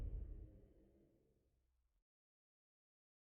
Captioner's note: silence